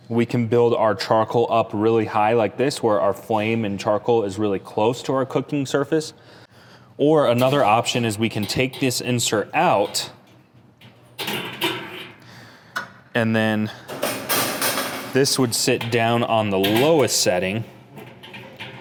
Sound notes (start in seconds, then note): 13.9 grills clanking